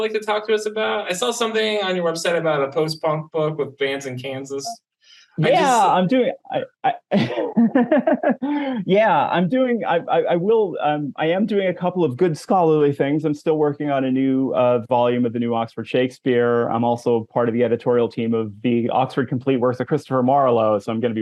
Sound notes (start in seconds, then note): 6.9 laughs